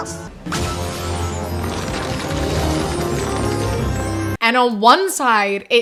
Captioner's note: magical sound effect